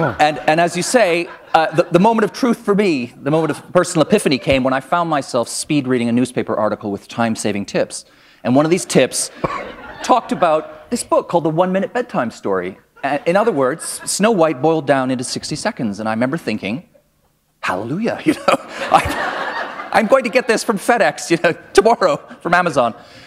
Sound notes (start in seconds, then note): 18.2 laughter